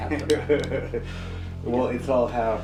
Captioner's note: interviewer chuckling